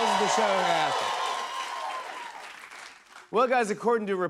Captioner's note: cheers and applause